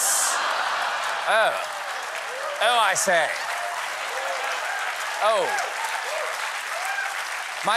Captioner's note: british accent